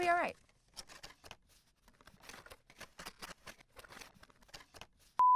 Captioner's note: paper rustling